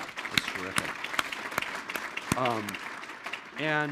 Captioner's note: audience applauding